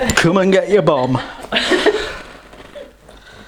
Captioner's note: laughs